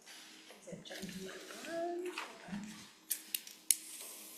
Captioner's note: papers shuffling